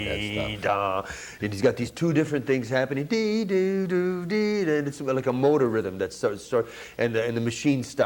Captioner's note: humms; humms